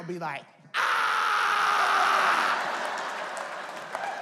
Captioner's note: screams; audience laughs